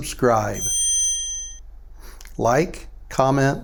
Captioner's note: chime